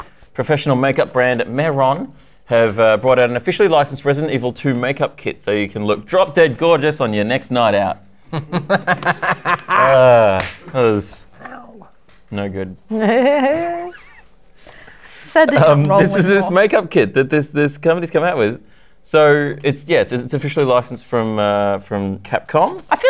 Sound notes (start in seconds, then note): 8.3 laughter; 13.0 mischevious giggle